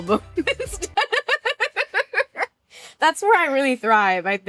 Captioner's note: laughs